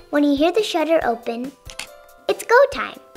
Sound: click

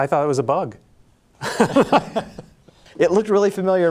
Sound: laughing

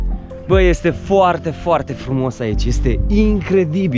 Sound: none

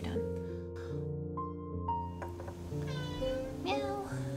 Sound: meow; meow!

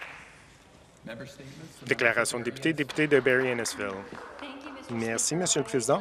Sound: some Applause

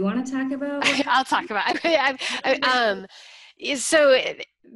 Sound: laughs

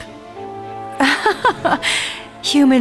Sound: laughs

